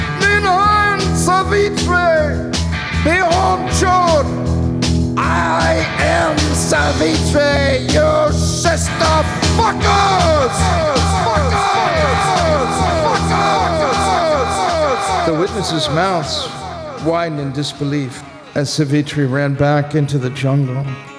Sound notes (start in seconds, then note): 4.8 echoing